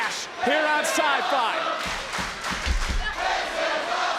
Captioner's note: audience chanting